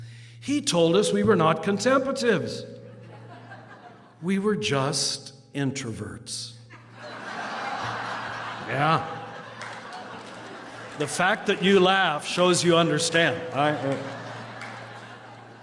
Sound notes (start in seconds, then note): 6.7 laughter